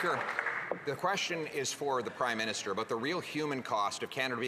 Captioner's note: some Applause